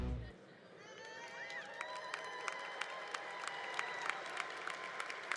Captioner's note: congregation cheering